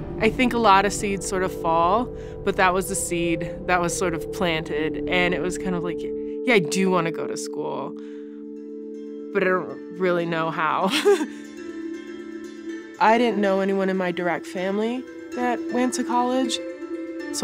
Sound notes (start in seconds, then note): 10.8 laughter